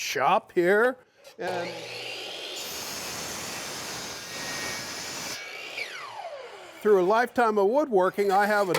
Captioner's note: table saw cutting